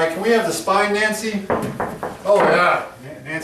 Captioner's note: ball bouncing